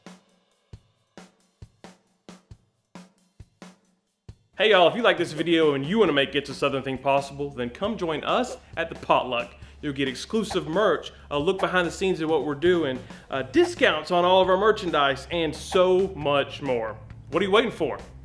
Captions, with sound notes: - Hey y'all, if you liked this video and you want to make It's a Southern Thing possible, then come join us at The Potluck. (screen whooshing) You'll get exclusive merch, (text whooshing) a look behind the scenes of what we're doing, discounts on all of our merchandise, and so much more. What are you waiting for?